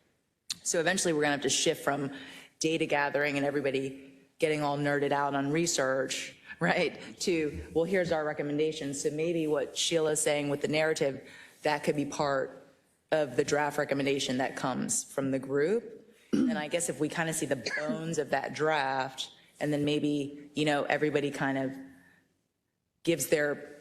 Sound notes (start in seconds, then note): 17.6 cough